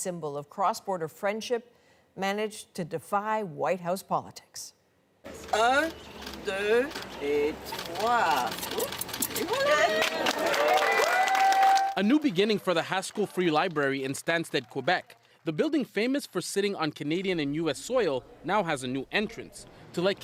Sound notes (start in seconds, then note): 8.3 speaking French; 9.4 applause